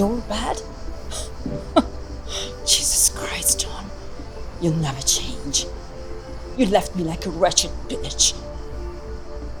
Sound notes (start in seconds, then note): 1.1 Julia laughing; 9.4 gentle music